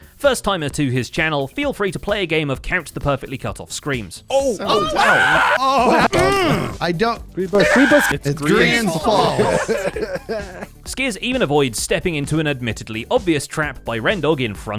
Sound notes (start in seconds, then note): 4.6 screams